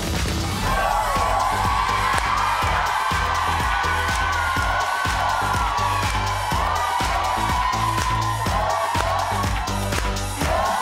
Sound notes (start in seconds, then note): 0.3 dynamic upbeat music; 3.9 audience cheering